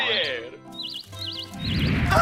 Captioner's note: birds chirping